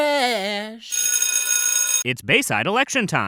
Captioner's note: bell rings